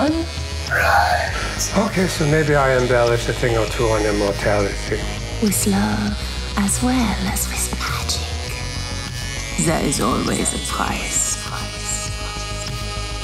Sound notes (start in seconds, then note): 5.7 sinister Voice; 10.5 eerie music